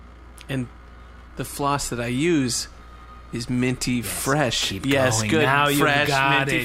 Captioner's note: whispering; slowly, thinking out loud